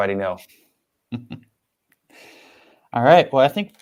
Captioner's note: chuckles